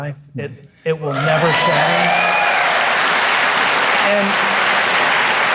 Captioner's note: audience cheering; audience applauding